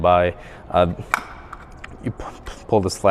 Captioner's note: latch clicks